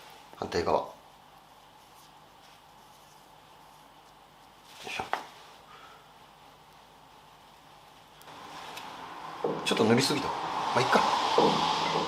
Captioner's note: working sound